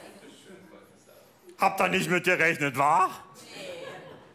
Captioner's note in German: berlinerisch